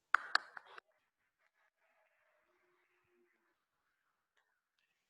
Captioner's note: audience clapping